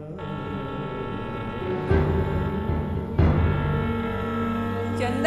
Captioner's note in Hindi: ट्रेन की सीटी